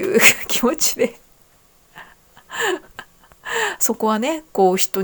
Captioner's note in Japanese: 笑い; 息をのむ音